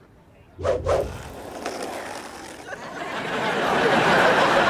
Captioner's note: audience laughs